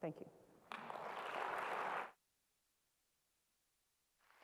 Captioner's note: applause